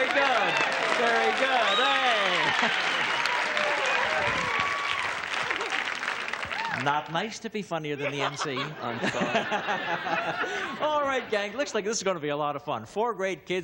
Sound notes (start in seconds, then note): 1.4 applause and cheering; 10.4 laughter